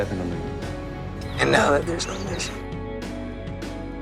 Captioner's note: voiceover